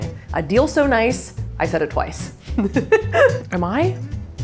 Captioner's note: chuckling